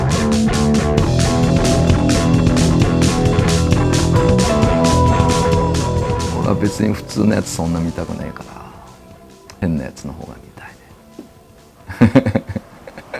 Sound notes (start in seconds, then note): 6.6 speaking in foreign language